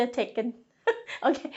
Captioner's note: laughs